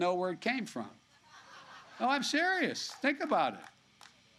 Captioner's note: laughter